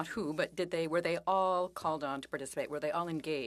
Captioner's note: speaking French